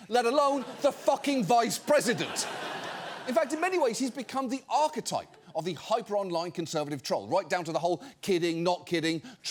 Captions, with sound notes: let alone the fucking vice president. (STUDIO AUDIENCE LAUGHING) In fact, in many ways, he's become the archetype of the hyper-online conservative troll, right down to the whole "kidding/not kidding,"